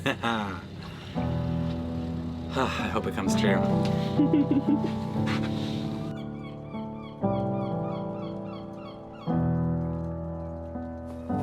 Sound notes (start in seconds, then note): 0.3 laughs; 7.2 calm music